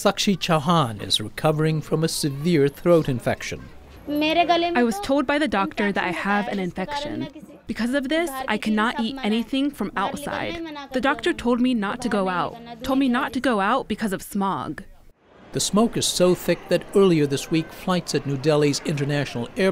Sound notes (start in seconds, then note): 4.9 through translator